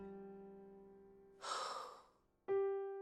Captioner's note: exhale